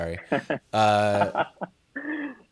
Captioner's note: laughing